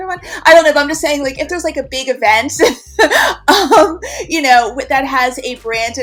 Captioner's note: laughs